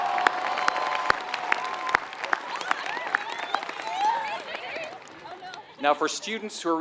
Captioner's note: applause